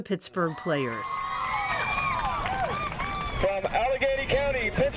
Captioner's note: crowd cheers